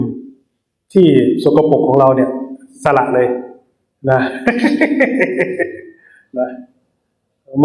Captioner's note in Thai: เสียงหัวเราะ